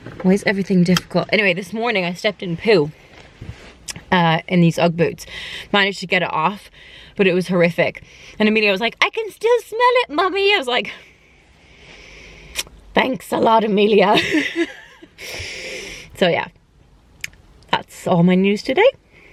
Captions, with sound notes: Why is everything difficult? Anyway, this morning I stepped in poo Uhh in these ugg boots managed to get it off but it was horrific and Emilia was like, 'I can still smell it Mummy' and I was like 'Thanks a lot Emilia' [She Laughs] so yeah that's all my news today